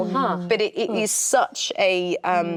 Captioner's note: actresses reacting